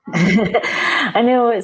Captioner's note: laughing